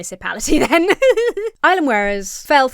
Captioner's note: laughs